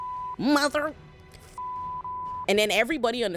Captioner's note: beep